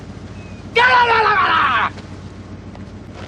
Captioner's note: yelling Incoherently